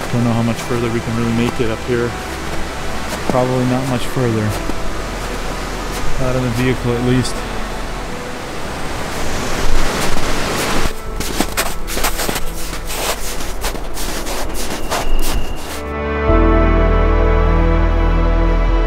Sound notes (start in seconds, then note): 11.5 snow crunching; 16.2 bright music